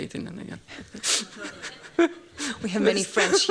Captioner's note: laughter